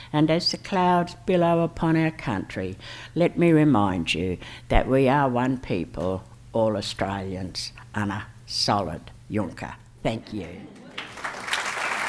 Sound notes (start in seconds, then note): 6.7 foreign language; 10.7 applause